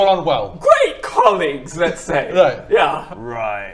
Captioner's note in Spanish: Se le quiebra la voz